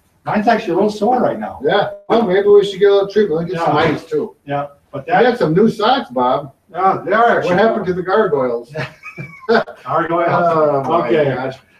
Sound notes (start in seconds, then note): 8.9 laughing